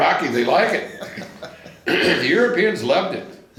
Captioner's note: laughs